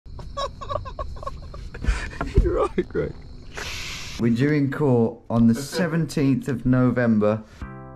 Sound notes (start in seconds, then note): 0.1 laughs